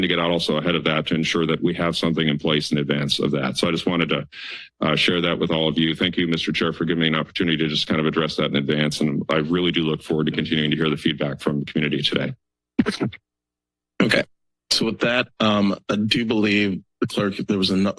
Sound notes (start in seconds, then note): 12.8 silence